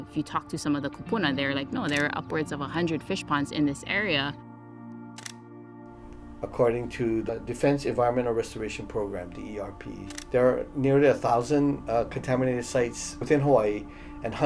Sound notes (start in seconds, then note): 5.2 camera shutter clicks